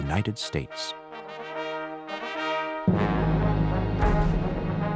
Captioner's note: cannons firing